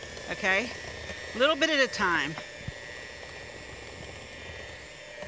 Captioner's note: mixer hums